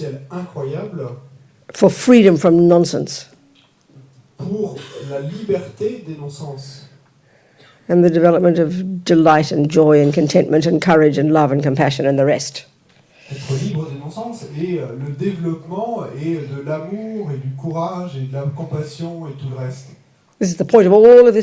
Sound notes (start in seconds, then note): 3.1 French; 12.1 French; 21.1 French